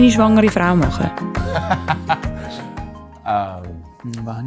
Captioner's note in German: lacht